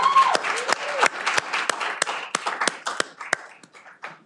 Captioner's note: cheering